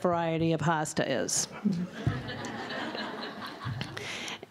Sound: laughter

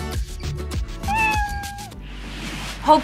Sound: meow

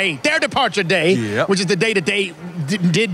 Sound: none

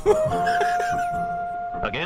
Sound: laughs

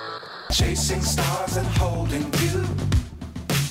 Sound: radio Tuning

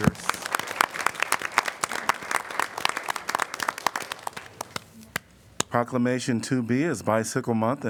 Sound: applause

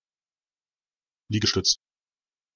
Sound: fast Pronunciation

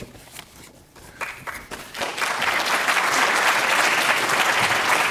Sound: applause

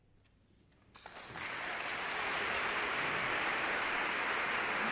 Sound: audience clapping

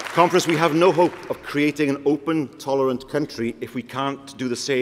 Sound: applause

